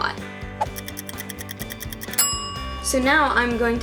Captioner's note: clock ticking, ding